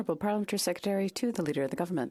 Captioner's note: speaking French